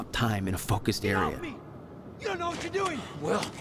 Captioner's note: yelling in the distance to Monarch guards